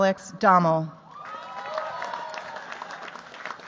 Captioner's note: cheers, applause